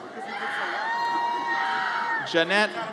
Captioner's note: audience cheers